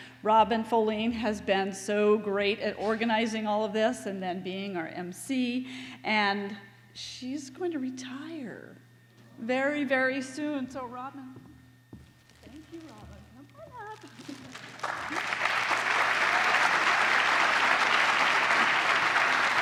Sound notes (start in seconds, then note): 14.2 applause